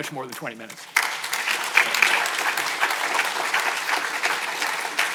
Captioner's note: audience applauding